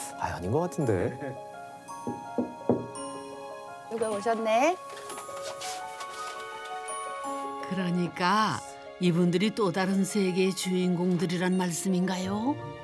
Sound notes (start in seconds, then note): 2.0 knock! Knock! Knock!